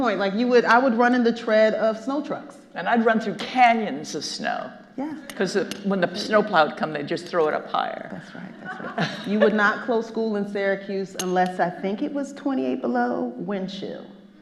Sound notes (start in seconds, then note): 8.6 Kathrine laughs